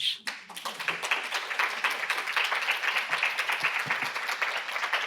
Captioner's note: students clapping